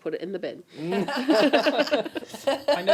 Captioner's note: laughter